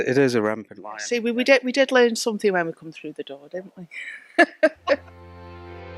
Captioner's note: laughter